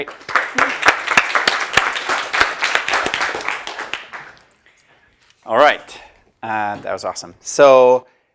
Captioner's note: applause